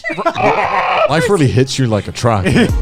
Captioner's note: laughing